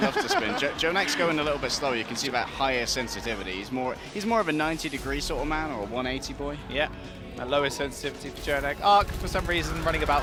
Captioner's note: laughter